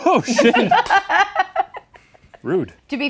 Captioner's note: laughing